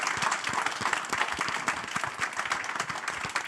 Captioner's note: audience applauding